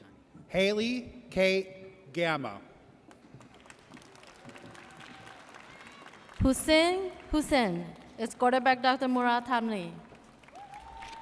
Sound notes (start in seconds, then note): 3.3 audience applauds